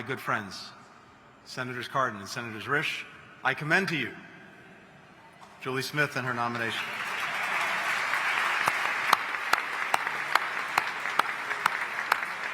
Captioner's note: applause